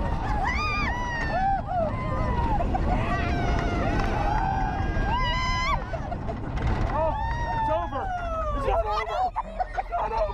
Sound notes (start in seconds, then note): 8.1 laughs